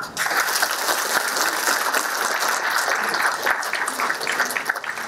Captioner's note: applause